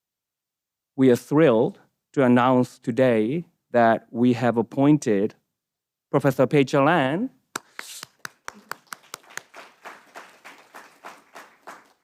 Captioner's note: applause